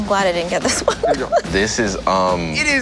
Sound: laughing

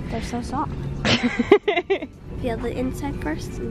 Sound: laughing

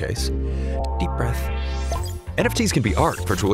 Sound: deep breath

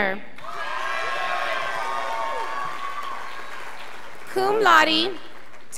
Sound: scholars applauding

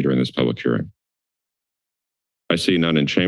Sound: silence

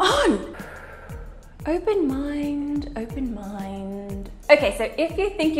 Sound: exhales

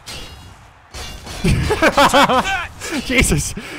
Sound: laughing

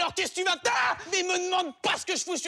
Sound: shouting

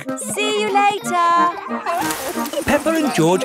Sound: peppa and george laughing

